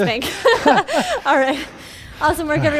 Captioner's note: laughing